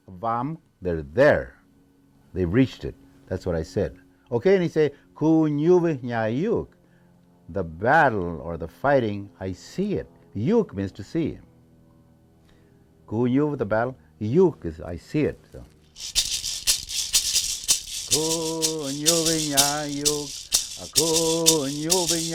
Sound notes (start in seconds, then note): 0.0 speaking in foreign language; 5.5 speaking in foreign language; 10.4 speaking in foreign language; 15.9 instrument rattling; 18.3 singing in foreign language